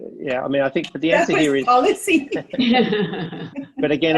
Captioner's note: laughing